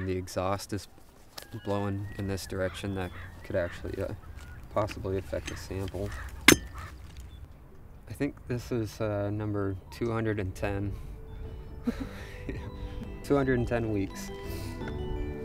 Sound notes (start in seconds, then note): 6.4 loud clink; 11.8 chuckles